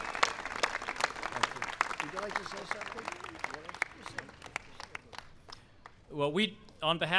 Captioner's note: applause